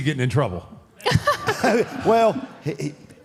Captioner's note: Michelle laughs